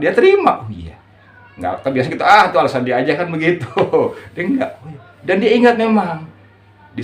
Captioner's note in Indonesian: tertawa